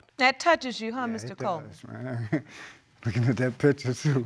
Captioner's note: chuckles